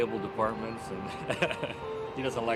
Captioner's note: laughs